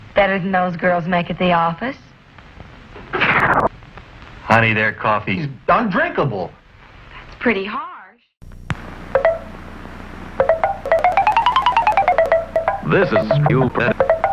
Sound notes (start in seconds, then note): 3.1 blowing out a candle, glitched; 10.4 pitch-shifted percolation noises